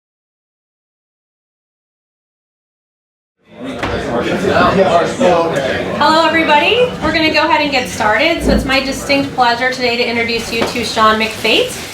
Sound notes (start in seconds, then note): 4.0 overlapping chatter